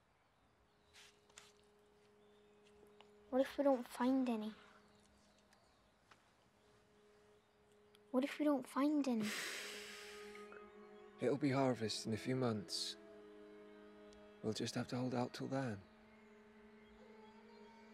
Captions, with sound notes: What if we don't find any? What if we don't find any? [SIGHS] It'll be harvest in a few months. We'll just have to hold out till then.